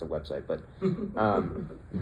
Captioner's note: chuckles